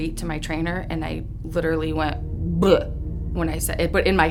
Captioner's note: mock guttural noise